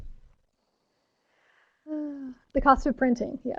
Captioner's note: sighs